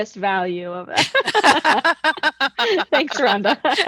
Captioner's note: both laughing